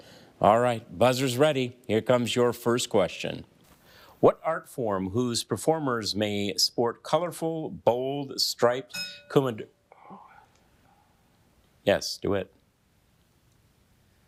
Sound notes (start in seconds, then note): 8.9 bell dinging